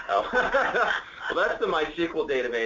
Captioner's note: laughter